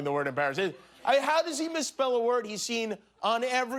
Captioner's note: laughter